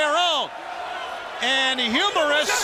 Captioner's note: crowd cheering